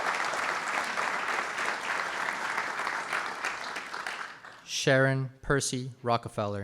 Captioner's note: applause